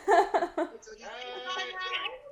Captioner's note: more excited chatter